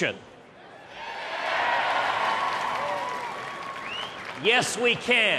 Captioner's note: applause, cheers